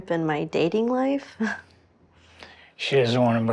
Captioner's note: laughs